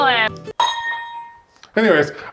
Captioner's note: metal clangs